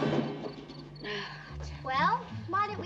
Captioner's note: Fernand sighs